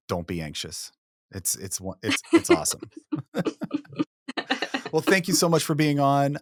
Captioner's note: chuckling